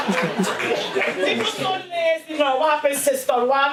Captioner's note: laughter